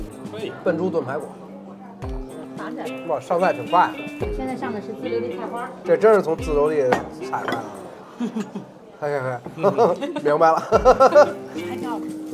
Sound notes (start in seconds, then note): 8.1 hehehe